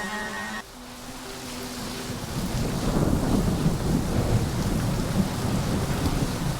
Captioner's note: soft dark music; thunder rumbles